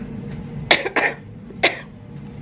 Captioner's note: coughs